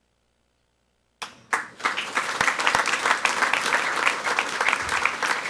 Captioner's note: people clapping